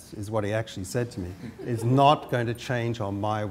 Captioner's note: laughter